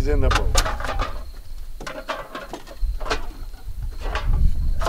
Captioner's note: cans clunking